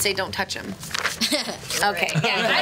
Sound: laughs

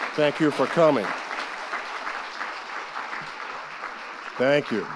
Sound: audience applauding

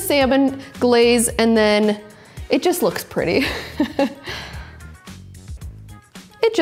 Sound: laughing

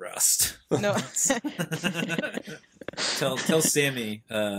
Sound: laughs

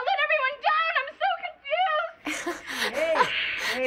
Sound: laughs

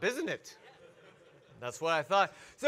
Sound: audience laugh

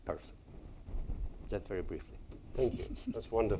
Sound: chuckles

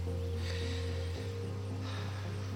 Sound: sighs

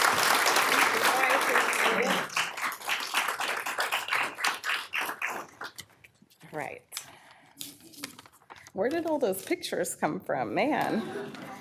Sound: applause

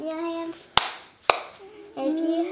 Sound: hands clapping

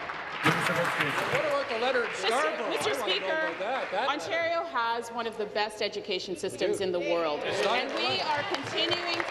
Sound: applause

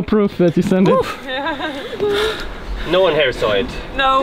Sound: laughing

